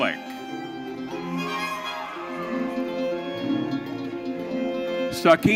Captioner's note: audience cheering